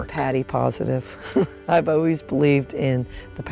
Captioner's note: chuckles